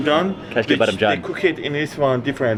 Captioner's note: speaks in foreign language